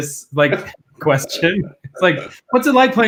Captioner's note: laughing; laughs